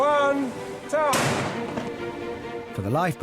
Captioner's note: cannon fires